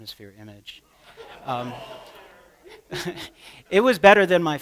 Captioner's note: laughter